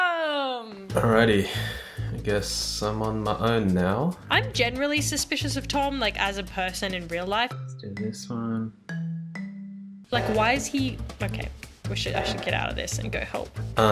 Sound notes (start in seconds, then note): 11.1 loud beeping